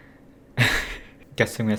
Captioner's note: cringe laugh